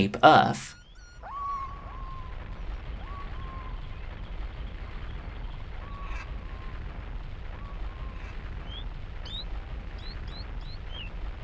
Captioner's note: Rockets blasting, Doshin sound effects doing their usual thing